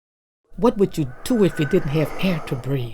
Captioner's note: wind blowing